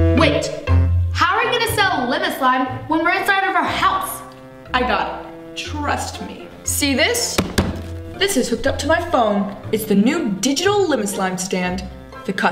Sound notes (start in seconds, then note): 7.3 tapping